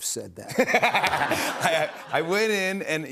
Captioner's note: laughter